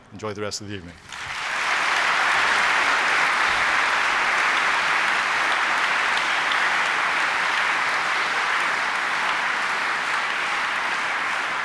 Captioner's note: applause